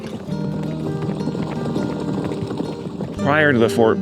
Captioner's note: horses trotting